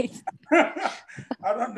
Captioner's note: both laughing